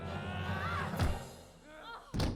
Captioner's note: screams; dramatic music